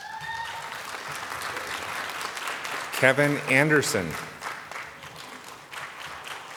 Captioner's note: applause